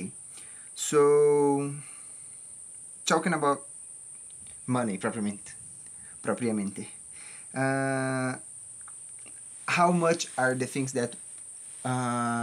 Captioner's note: Spanish